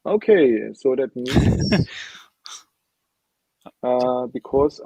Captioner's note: laughing